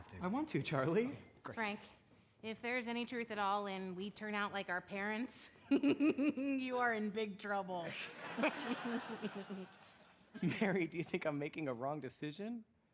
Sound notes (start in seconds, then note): 5.7 chuckles; 8.1 frank and mary laughing